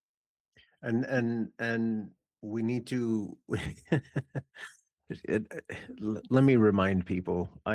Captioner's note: laughs